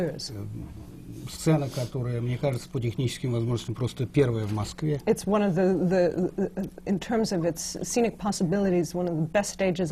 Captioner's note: foreign language not transcribed